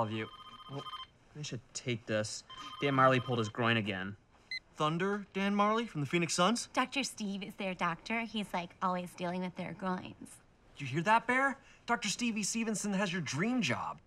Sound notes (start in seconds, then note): 2.4 cellphone beeps; 2.4 cellphone ringing